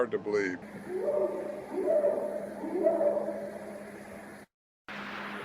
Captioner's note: creature hooting